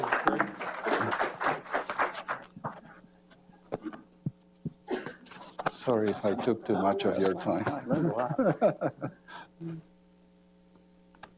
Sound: applause

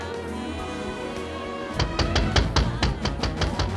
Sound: knocking

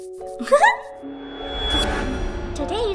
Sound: doll giggling

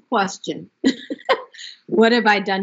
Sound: laughs

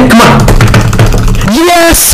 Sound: intense gaming noises

